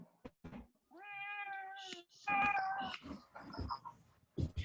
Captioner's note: cat meows